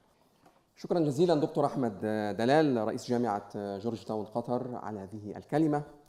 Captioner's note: speaking in foreign language